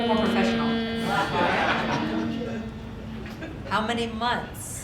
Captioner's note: audience laughing